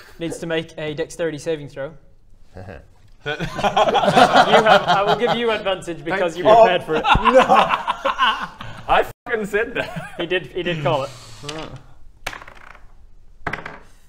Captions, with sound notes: needs to make a dexterity saving throw haha *secretly jealous laughter* You have, I will give you advantage because - you prepared for it - Thank you! No! I f'ing said that! He did call it